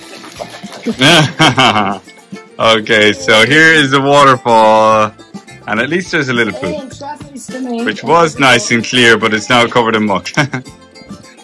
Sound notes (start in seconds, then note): 10.1 laughs